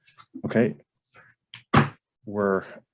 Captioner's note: gavel bangs